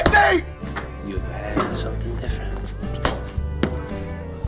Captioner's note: boot stomp